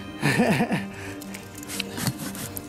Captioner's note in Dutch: lacht